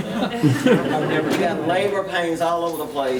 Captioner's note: members laughing